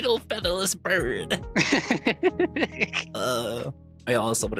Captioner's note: laughing